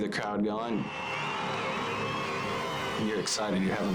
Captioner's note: audience cheering